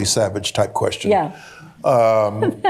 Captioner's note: chuckling